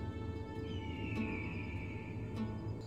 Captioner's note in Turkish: Kartal ötme sesi